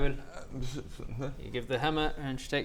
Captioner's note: reluctant grumbling